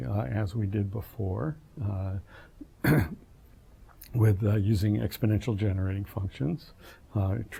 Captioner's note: cough